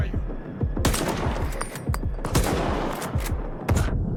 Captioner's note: gun fires